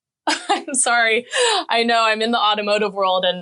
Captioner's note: laughing